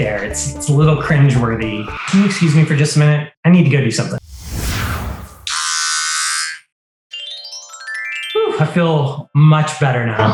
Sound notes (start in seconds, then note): 1.6 tires squeal; 4.2 air whooshes; 5.5 shaver buzzes; 7.2 bright twinkle tone